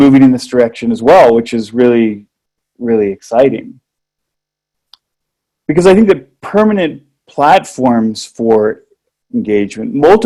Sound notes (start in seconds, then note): none